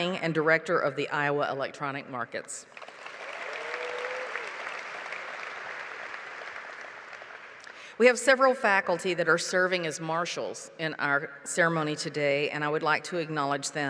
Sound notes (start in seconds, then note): 2.7 applause